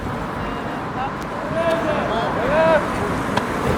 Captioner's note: aggressivt ropande